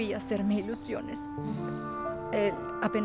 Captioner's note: Esperanza suspira